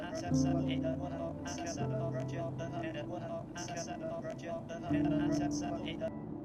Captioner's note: speaking in electronic voices